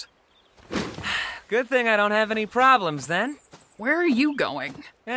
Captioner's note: sighs